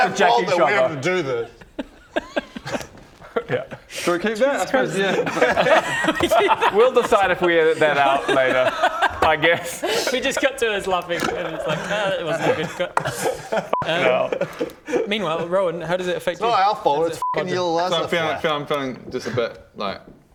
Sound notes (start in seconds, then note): 5.3 looking-for-the-line laughter